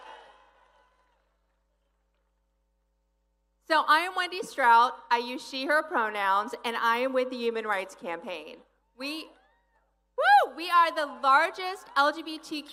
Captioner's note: applause